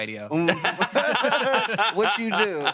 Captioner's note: everyone laughs